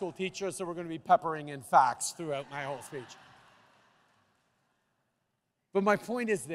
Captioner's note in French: Rires